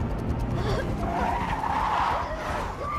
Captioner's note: tires screech